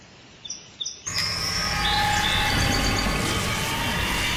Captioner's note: wind whirring